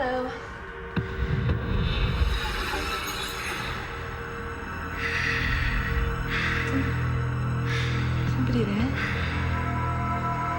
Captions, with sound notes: - Hello? (man breathing heavily) Is somebody there?